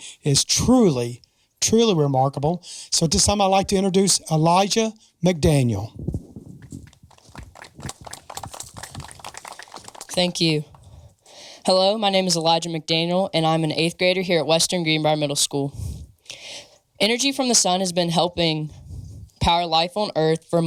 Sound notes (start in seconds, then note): 6.6 audience applauding